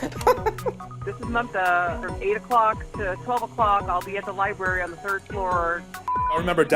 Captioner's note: chuckles; machine starts; beeps